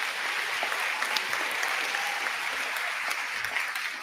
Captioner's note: applause